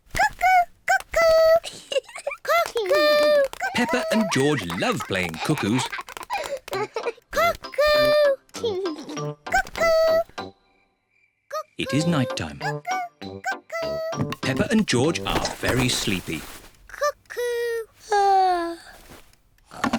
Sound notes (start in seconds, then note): 1.5 giggles; 6.5 laughs; 18.5 yawns